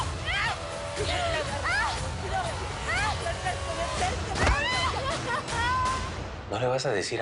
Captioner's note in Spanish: Sollozos y gritos de Valeria